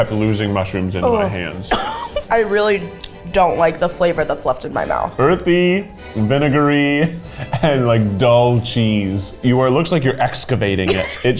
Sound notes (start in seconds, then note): 1.6 coughs